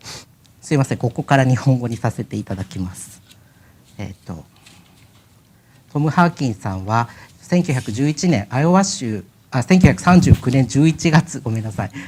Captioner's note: speaking japanese